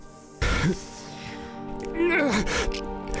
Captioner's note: sharp inhale